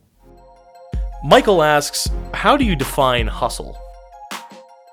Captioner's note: voiceover